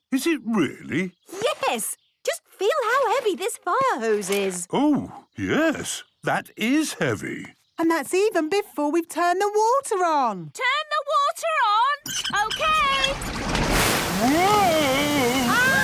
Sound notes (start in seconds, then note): 12.0 wheel squeaking